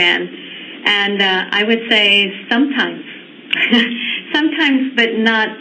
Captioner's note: chuckling